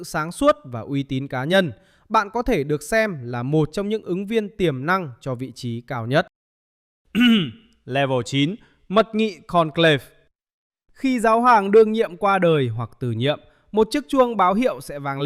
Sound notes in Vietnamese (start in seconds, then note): 7.1 hắng giọng